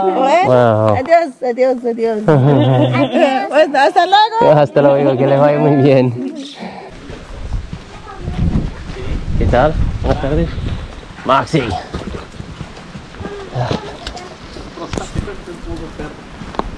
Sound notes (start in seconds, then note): 0.1 people speaking Spanish; 9.6 speaking Spanish